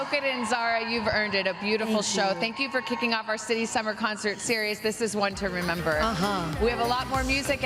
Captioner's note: cheers and applause